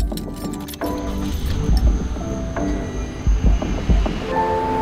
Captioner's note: car engine roars; upbeat music